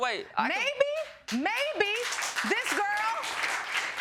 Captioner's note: audience clapping